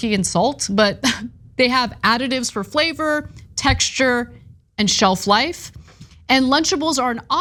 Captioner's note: laugh